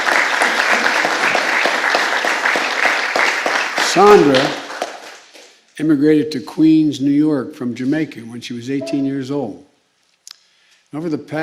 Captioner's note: applause